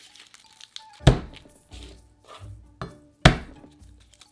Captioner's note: garlic paper rustling; knife smashing